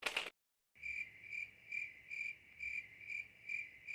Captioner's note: crickets chirping